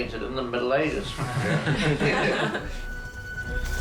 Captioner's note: all chuckle